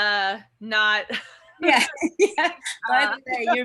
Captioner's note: laughs